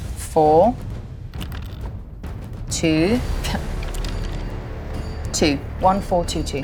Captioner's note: die rattling; die rattling